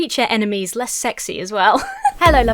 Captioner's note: giggles